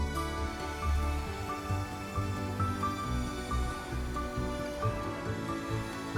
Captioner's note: gentle bright music; blower whooshing